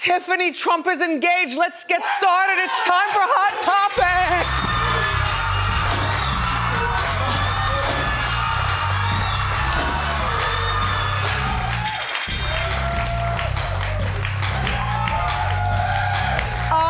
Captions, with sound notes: Tiffany Trump is engaged, let's get started, it's time for hot topics! (audience cheers) (electronic music)